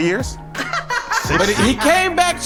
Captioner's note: laughs